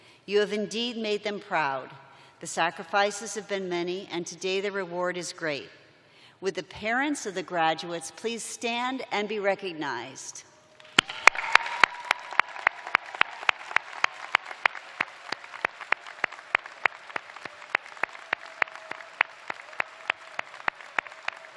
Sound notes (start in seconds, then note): 7.9 cheers and applause